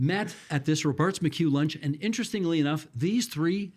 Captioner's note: laughing